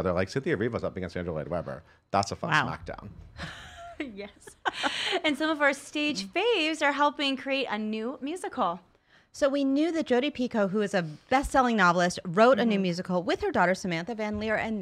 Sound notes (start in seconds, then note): 4.3 laughs